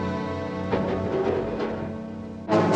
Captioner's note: clattering